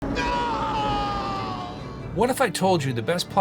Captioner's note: screaming